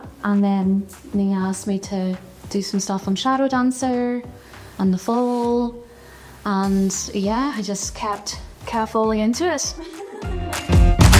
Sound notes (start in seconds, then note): 9.7 laughs